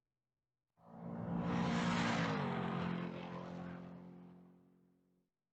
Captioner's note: car engine racing